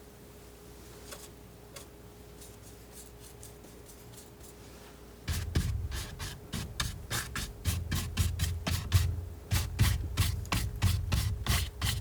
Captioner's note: scratching